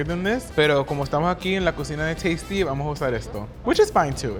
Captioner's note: speaking Spanish